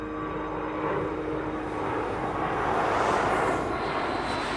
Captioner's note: airplane passing overhead